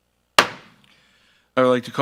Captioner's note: gavel thuds